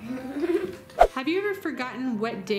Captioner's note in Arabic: يضحك; سووش